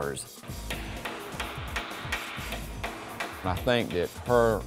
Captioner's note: hammering